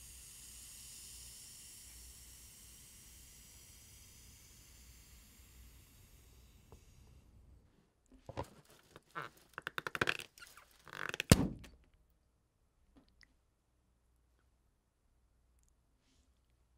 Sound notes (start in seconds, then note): 0.0 air hissing; 8.3 balloon squeaking; 11.2 popping; 11.8 silence